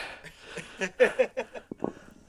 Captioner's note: laughing